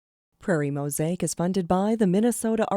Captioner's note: voiceover